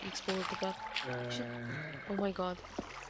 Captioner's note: zombie noise